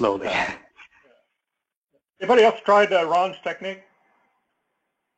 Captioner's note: laugh